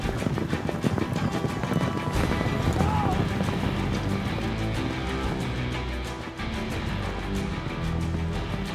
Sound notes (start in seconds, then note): 0.0 hoofbeats